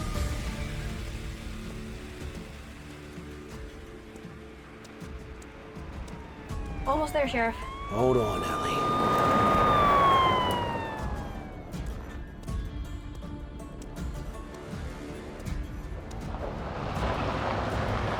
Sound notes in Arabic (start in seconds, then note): 0.1 خطوات بطيئة; 8.6 عويل صفارات الإنذار; 11.3 موسيقى متوترة; 12.1 خطوات بطيئة; 15.9 موسيقى متوترة